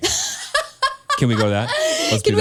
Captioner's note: laughs